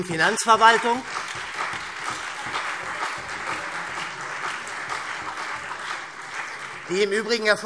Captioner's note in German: Beifall SPD, CDU, BÜNDNIS 90/DIE GRÜNEN und Freie Demokraten